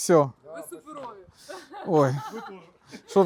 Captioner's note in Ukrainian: сміх